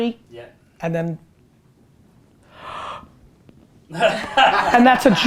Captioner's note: holding breath; group laughter